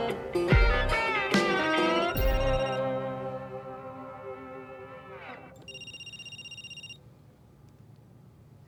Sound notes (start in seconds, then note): 1.8 phone rings